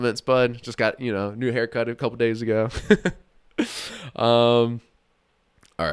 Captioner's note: laughs